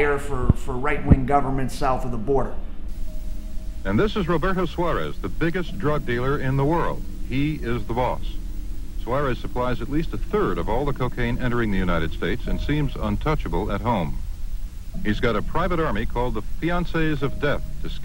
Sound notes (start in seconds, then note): 4.0 voiceover